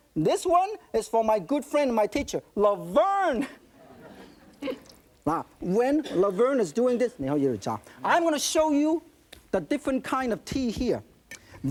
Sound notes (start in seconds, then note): 3.7 audience laughing; 7.3 speaking in foreign language